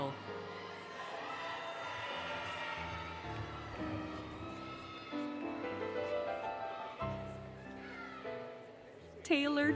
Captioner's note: cheering, Music